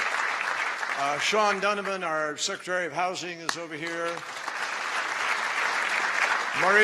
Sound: applause

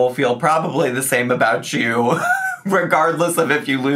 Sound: laughs

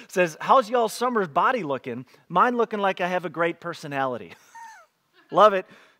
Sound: laughs

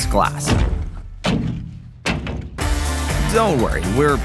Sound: glass thudding

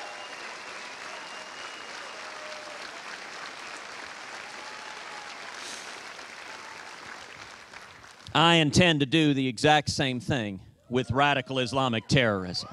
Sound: cheers and applause

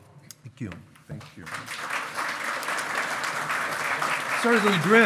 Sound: loud clapping

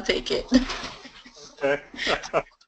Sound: laugh

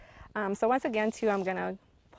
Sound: rustling

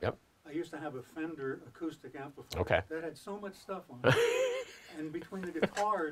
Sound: laughter

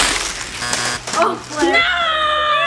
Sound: buzzer

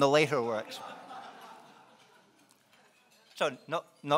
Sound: laughing

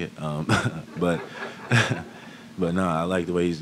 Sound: laughter

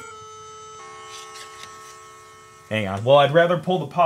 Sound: computer dings

